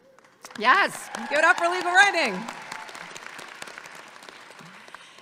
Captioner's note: claps